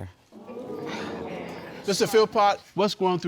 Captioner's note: crowd exclaiming